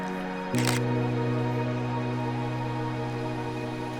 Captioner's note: camera clicks; gentle music; camera clicks